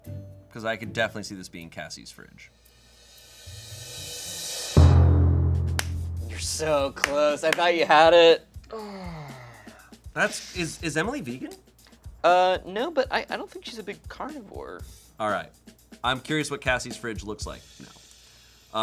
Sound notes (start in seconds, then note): 4.8 thud booms